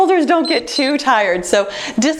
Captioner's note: timer beeps